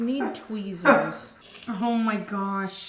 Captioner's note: laughing